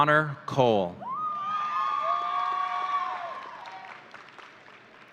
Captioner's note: audience cheering